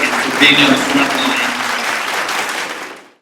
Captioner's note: applause